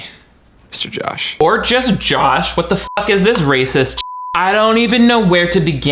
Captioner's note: beep